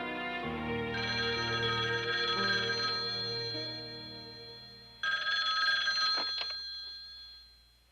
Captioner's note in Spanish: timbre de teléfono